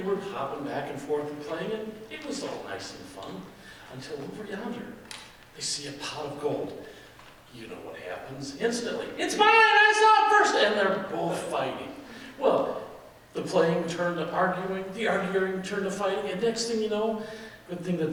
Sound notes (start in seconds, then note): none